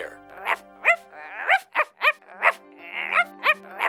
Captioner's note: barking sound